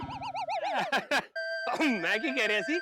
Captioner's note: laughing